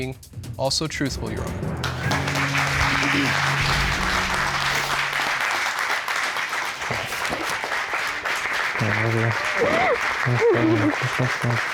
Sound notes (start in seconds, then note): 1.6 applause and cheering; 8.4 sobbing